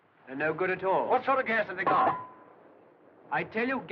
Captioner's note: mask Clatters On Ground